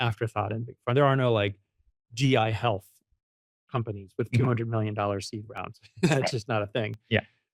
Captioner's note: laughs